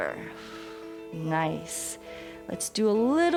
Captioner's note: exhales